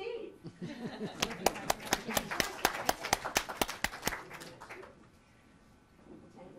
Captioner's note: applause and laughter